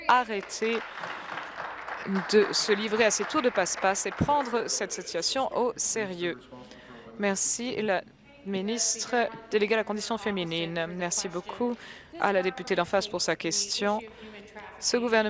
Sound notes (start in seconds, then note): 3.4 applause